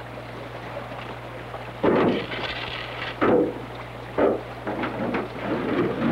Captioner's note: sound of canoe bumping against rocks